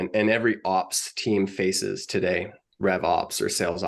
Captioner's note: none